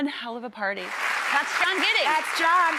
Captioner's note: cheering